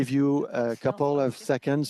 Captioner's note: speaking French